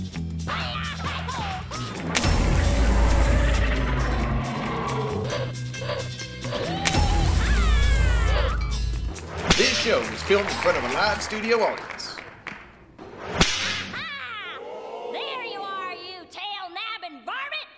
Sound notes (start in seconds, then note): 0.3 screaming; 2.1 roaring